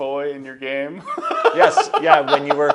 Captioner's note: laughter